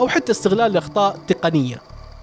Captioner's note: glitches